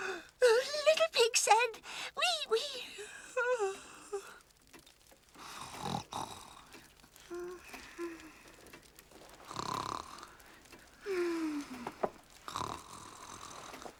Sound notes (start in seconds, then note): 5.4 snoring